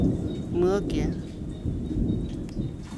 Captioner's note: thunder; thunder continues